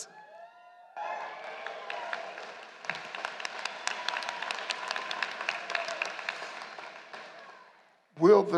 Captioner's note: applause